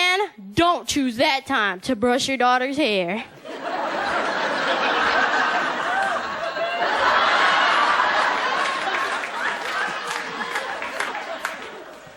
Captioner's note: audience Laughter